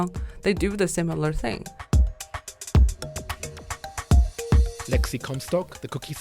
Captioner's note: voiceover